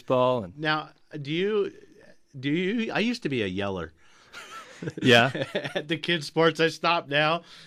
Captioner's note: laughs